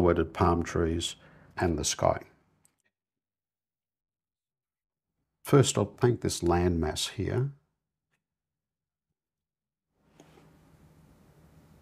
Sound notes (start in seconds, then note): 2.8 silence; 7.9 silence